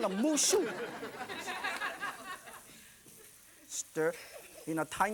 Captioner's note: audience laughing